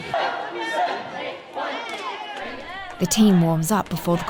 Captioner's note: cheerleaders chanting